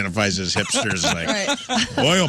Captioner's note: laughing